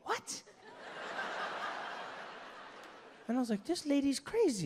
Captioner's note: crowd laughing